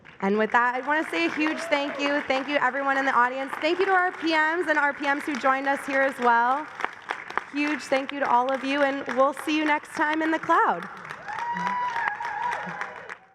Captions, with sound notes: And with that, I want to say a huge thank you. Thank you, everyone in the audience. Thank you to our PMs and our PMs who joined us here as well. Huge thank you to all of you. And we'll see you next time in the cloud. [APPLAUSE]